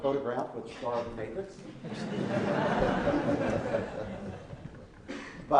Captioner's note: laughing